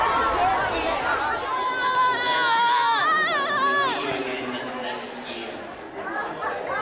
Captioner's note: screaming